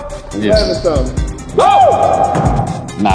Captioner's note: cheers